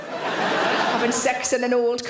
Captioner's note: audience laughs